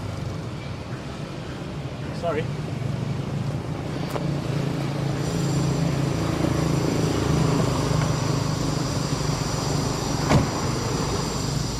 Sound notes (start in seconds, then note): 4.1 loud traffic in the background